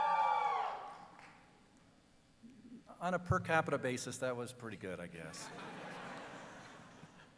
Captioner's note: cheering